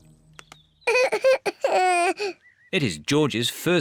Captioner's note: cries